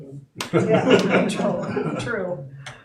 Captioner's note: audience laughing